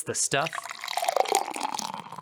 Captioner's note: drink mixing sounds